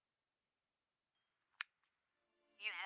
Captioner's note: click